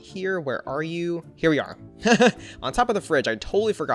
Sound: laughs

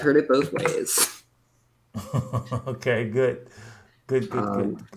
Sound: laughs

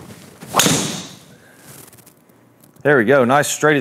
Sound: loud thud

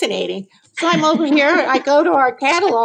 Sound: laughs

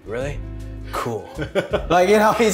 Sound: laughter

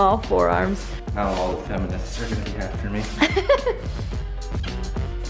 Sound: laughing

